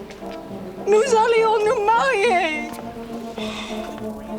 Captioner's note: Jilly speaks French